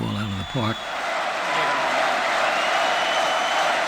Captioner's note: chanting